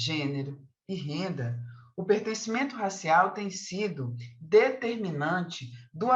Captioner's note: continues speaking in Portuguese